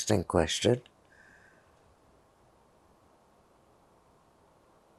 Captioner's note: pauses 6 seconds